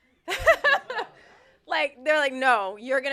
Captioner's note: laughter